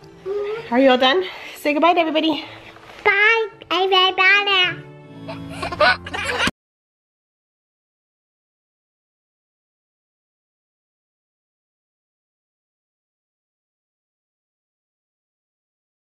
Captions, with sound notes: - Are you all done? Say good bye to everybody. - Bye, everybody. (laughs)